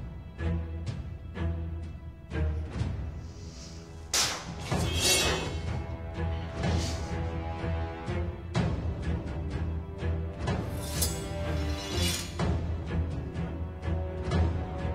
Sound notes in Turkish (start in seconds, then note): 3.4 Kılıç Sesi; 4.1 Tükürme Sesi